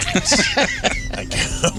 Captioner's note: laughing